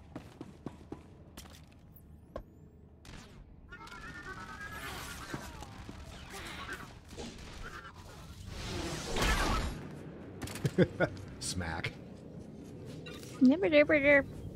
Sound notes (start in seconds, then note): 3.7 gunshots; 10.5 laughs